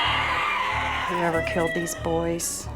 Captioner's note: screaming